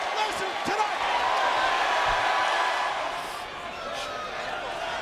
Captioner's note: audience cheers